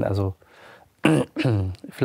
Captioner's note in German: Räuspern